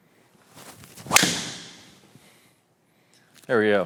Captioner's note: club smacking